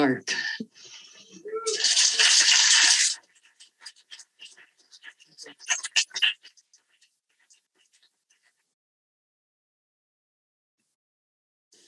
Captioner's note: applause